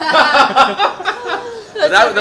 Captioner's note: all laughing